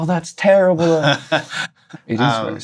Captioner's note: laughter